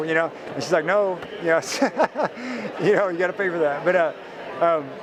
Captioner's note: laughs